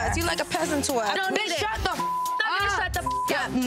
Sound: beep

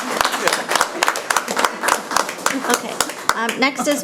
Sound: people clapping

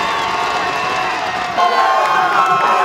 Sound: shouting

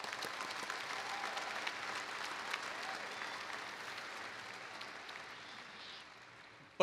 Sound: applause

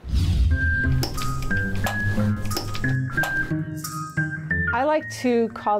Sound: whimsical music; camera shutter clicking

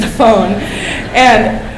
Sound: laughter

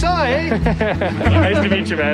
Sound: laughter

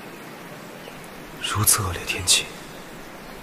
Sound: it's raining heavily

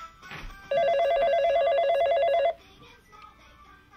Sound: phone rings

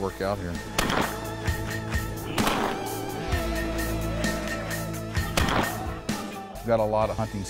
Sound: gunshots

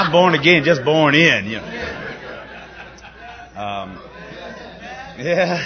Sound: laughter

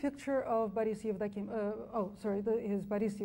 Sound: speaks foreign language

